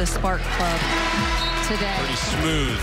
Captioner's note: buzzer